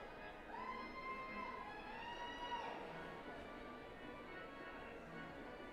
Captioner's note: group shouts and cheers